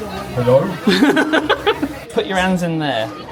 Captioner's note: laughs